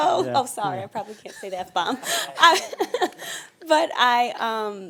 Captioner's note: laughing